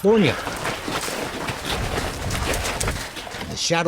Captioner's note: horses moving